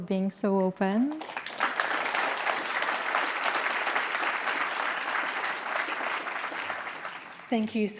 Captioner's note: applause